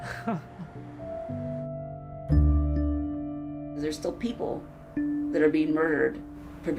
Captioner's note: chuckles